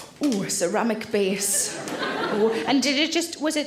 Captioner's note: audience laughs